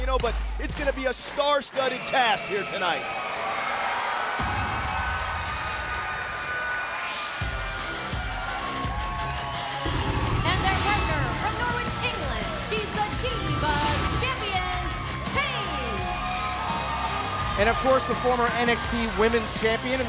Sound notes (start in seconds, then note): 3.4 crowd cheering; 4.8 upbeat rock music; 16.0 crowd cheering